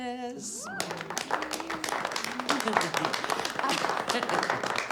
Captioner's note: faculty applauds